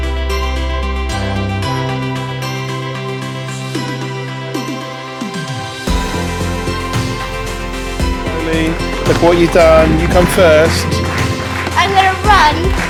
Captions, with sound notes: look what you've done, you came first [ clapping ]